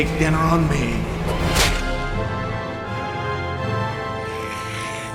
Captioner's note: tense music; hammer thuds; vampire hissing; lights buzzing